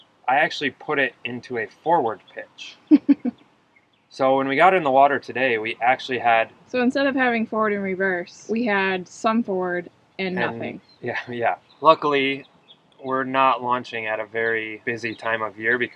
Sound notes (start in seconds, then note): 4.2 laughing